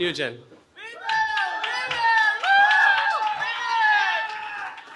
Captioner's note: cheering